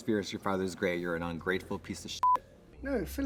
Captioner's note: beep